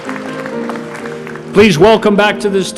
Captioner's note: applause